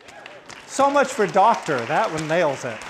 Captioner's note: crowd applauding